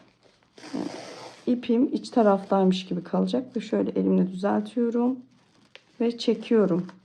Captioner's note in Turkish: homurdanır